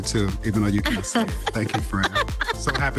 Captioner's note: panelists laughing